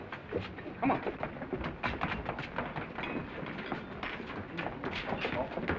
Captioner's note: footsteps receding